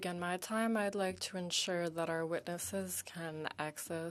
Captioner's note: speaking French